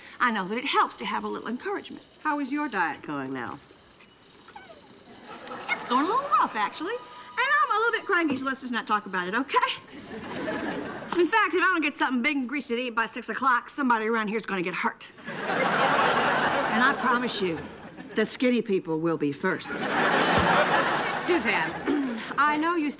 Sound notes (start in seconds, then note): 9.9 audience laughing; 15.2 audience laughing